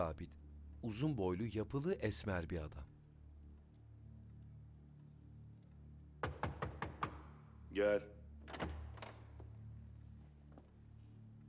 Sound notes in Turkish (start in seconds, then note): 6.2 Kapı vurma sesi